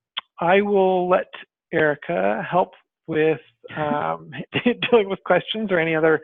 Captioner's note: laughs